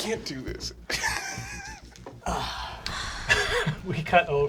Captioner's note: laughing